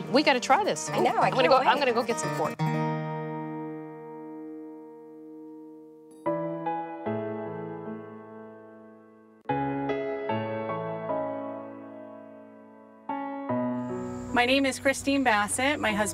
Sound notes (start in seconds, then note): 2.7 music fades; 5.7 relaxing piano music; 13.6 crickets chirping